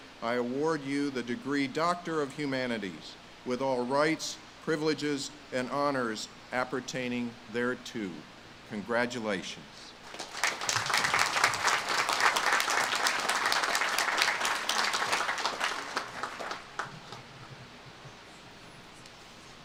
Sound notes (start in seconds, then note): 10.4 audience claps